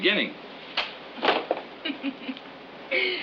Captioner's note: laughs